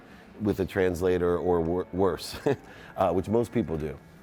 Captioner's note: laughs